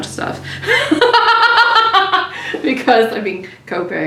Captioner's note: laughs